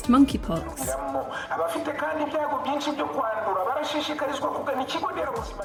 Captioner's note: loud announcement in Kinyarwanda